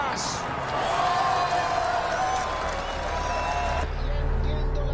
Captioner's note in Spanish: Aclamaciones